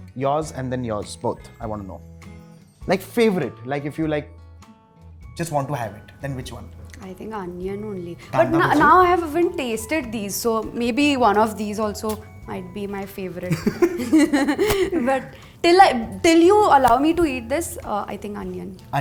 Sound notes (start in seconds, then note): 13.4 giggles